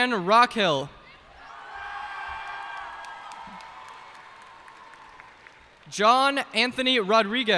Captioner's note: cheers and applause